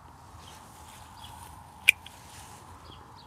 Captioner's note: snap